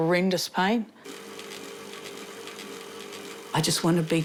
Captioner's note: bicycle whirrs